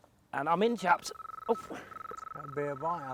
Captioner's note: beeping